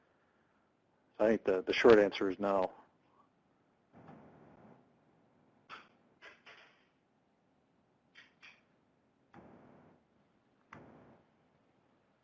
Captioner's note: intermittent Static